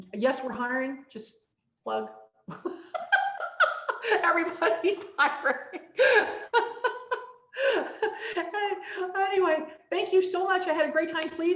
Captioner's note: laughs